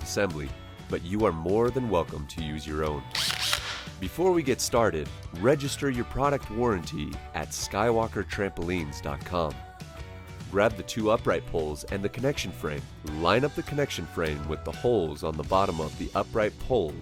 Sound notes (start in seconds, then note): 3.1 drill roaring